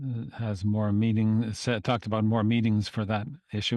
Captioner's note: speaking French